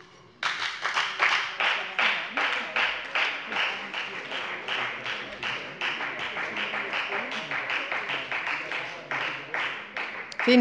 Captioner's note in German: Beifall bei der FDP und bei Abgeordneten der SPD